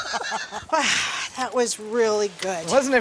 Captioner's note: laughter